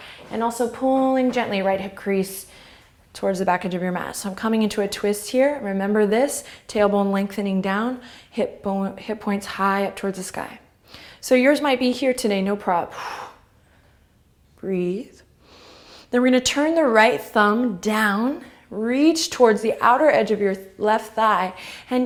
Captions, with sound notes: and also pulling gently, right hip crease towards the backage of your mat. So I'm coming into a twist here, remember this, tailbone lengthening down, hip points high up towards the sky. So yours might be here today, no prob (exhale). Breathe (inhale) then we're gonna turn the right thumb down, reach towards the outer edge of your left thigh,